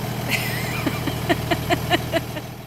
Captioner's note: laughter